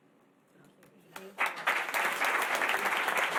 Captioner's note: applause